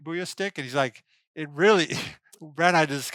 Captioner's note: chuckles